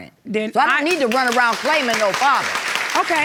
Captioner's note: audience clapping